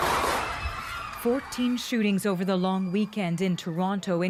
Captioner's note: gunshots